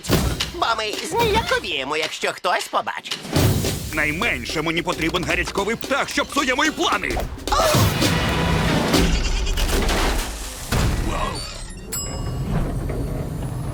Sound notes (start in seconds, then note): 11.8 ding; 12.2 tense music playing